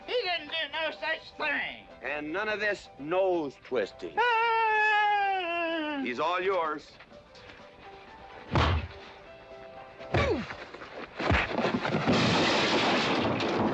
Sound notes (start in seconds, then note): 8.5 thud; 11.2 thud; 11.3 big crash; 12.0 wham